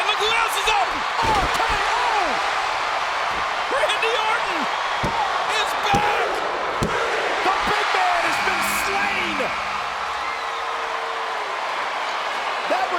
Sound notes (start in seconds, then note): 2.9 crowd cheering; 8.4 buzzer buzzing; 11.1 crowd cheering